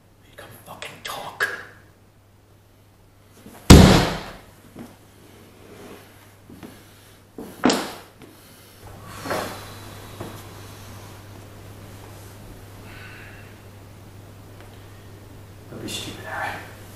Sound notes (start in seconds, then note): 3.6 hand slams on wall